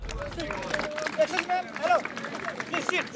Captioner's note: applause